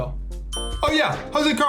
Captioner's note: bell rings